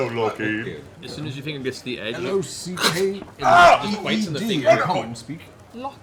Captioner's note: snaps